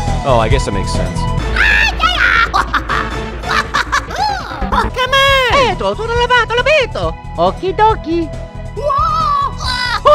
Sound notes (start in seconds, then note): 2.0 laughing